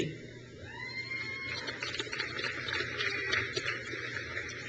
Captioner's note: crowd cheers